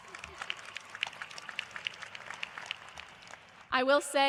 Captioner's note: cheers and applause